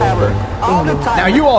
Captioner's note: alien gibberish